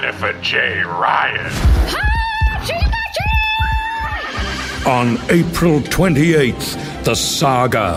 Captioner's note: screaming